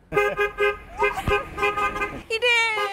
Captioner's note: honking